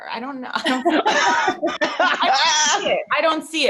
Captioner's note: all laughing